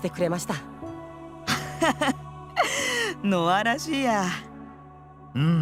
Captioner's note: laugh